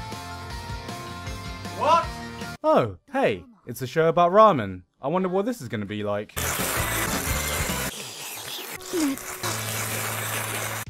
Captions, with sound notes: What? Oh hey, it's a show about ramen. I wonder what this is gonna be like. [Shluuuurrppp] [More needlessly erotic shlurps]